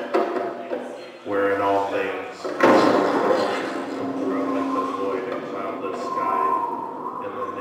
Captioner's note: thunder, wind